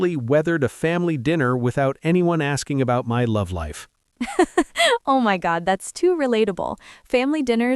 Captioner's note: laughs